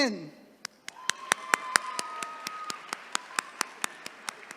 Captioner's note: attendees cheering